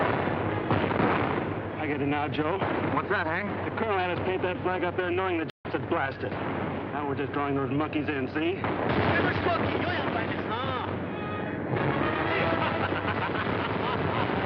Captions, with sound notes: -I get it now, Joe. -What's that, Hank? -The Colonel had us paint that flag up there knowing the J*ps would blast it. Now we're just drawing those monkeys in-- see? JAPANESE OFFICER (SPEAKING JAPANESE)